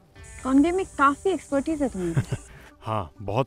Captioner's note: Keshav laughs